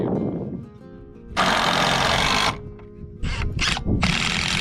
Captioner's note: drill whirring